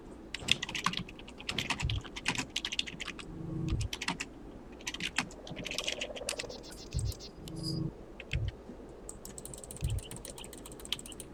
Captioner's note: typing sounds